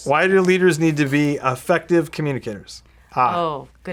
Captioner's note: none